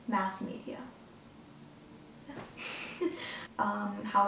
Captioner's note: laughs